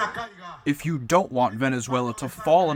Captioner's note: through translator